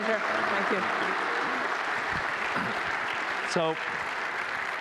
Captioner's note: applause